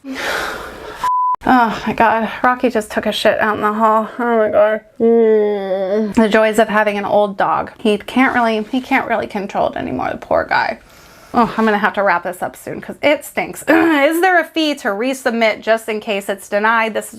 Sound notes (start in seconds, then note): 1.0 sound beeps; 5.6 groans